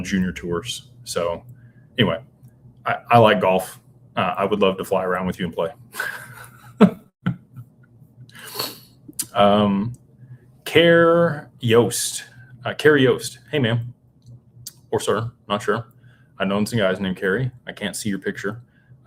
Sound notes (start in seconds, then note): 5.9 laughter; 8.5 snorts